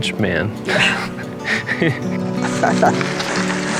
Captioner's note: laughing